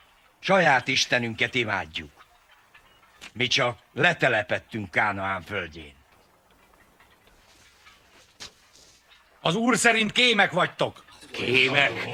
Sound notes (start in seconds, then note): 0.3 whispering; 7.0 whispers; 11.0 murmuring